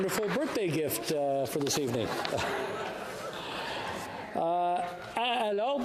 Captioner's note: cheering and Applause